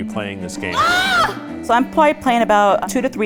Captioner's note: yells